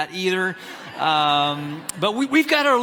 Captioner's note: audience laughs